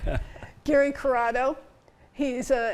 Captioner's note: chuckles